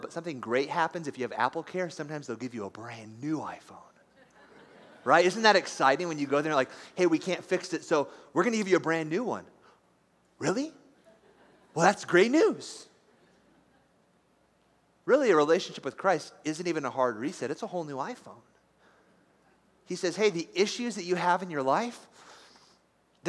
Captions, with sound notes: But something great happens if you have AppleCare. Sometimes they'll give you a brand new iPhone. [LIGHT LAUGHTER] Right? Isn't that exciting? When you go there and they're like, Hey, we can't fix it so we're going to give you a brand new one. (DISBELIEVINGLY) Really? Well, that's great news. Really, a relationship with Christ isn't even a hard reset. It's a whole new iPhone. He says, hey, the issues that you have in your life,